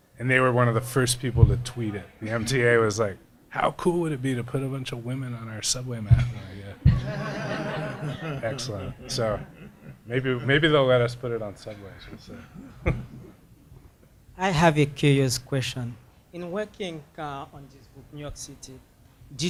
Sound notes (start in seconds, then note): 6.8 laughing